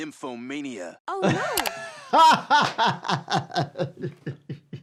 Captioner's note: laughing